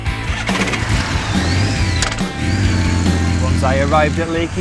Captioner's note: motorcycle engine starts and revs; voiceover